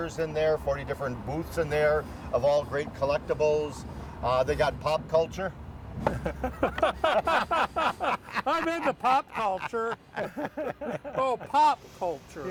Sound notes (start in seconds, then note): 6.1 laughing